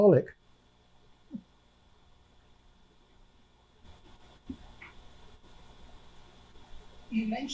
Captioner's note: pauses 6 seconds